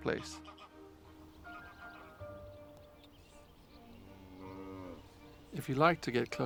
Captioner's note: sounds of calling birds and cows mooing